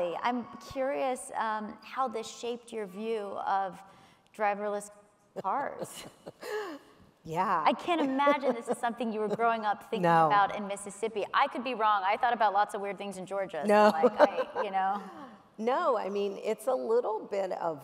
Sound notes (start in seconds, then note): 6.4 laughs; 13.8 laughs